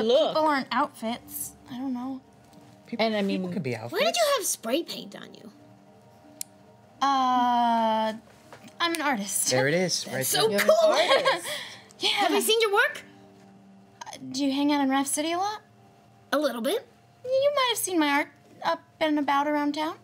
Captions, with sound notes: Yeah but people aren't outfits, I don't know. Why did you have spray paint on you? I'm an artist. There it is, right there. That's so cool. (laughing) Would we have seen your work? Do you hang out around the city a lot? A little bit. Then you might've seen my art up and about around town.